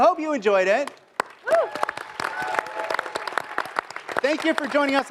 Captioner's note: applause